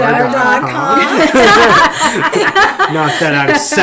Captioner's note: laughing